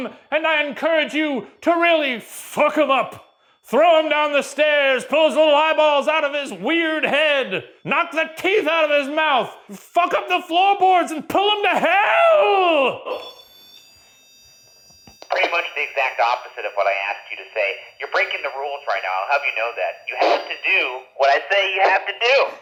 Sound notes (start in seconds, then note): 13.4 REM-Pod beeping